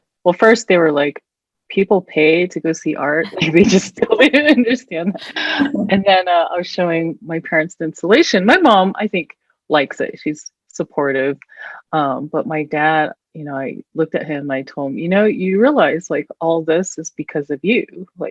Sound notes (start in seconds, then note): 5.1 all laughing